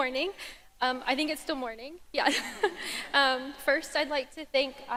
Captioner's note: laughs